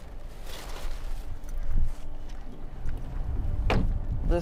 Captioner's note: wind howling; steps plodding